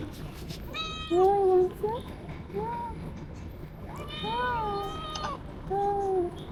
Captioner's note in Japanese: 🐱ご飯ちょうだいって鳴いてる